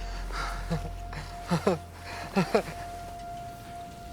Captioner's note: both laugh